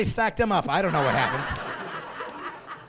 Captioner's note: laughing